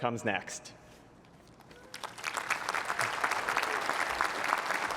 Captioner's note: applause